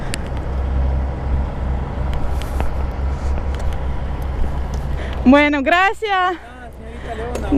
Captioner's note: in Spanish